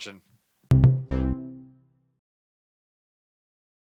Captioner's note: cheery tone